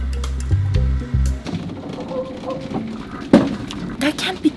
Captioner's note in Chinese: 树枝刮过车顶